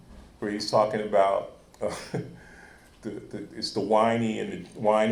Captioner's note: chuckles